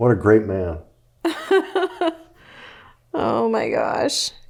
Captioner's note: laughing